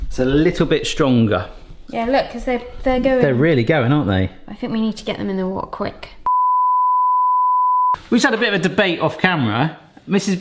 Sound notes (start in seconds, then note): 7.2 test pattern ringing